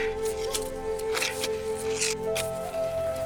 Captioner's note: grunting